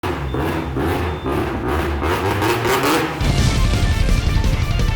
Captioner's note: car engine roaring; rock music